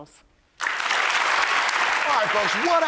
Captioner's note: applause